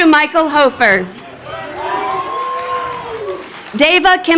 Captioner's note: crowd cheering